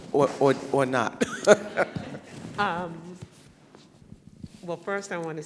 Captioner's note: laughter